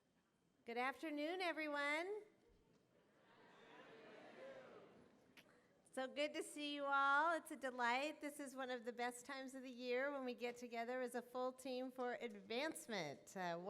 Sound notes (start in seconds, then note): 3.2 audience response